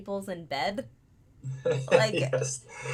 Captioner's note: laughing